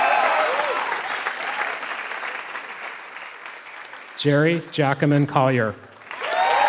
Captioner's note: applause